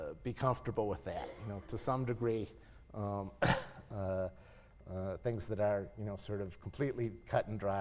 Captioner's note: cough